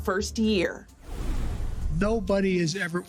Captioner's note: air whooshing